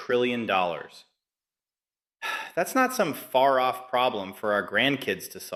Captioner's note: sighs